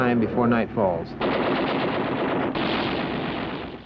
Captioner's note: gunfire